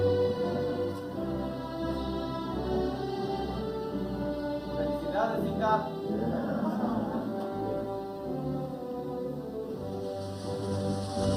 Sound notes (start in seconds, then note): 5.2 audience member 1 speaking in Spanish; 8.6 upbeat music